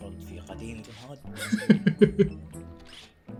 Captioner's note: laughs